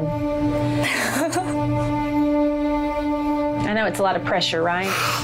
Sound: somber music; cries

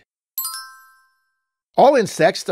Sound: chimes

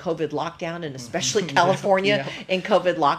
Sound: both laugh

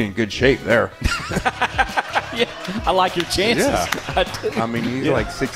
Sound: laughter

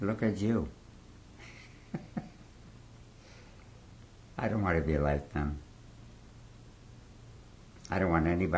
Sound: laughs

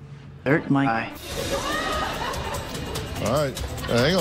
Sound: audience laughs

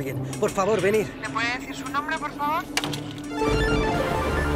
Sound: telephone

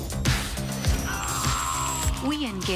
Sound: screaming

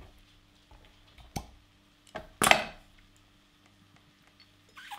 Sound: wine cork pops

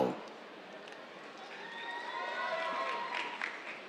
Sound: cheers, applause

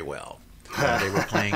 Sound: laughs

